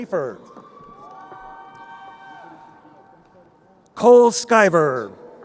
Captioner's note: crowd cheering